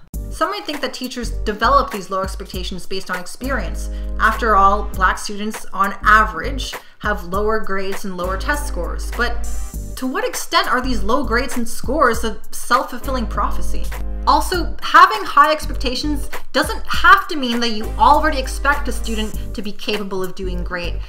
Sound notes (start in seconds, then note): none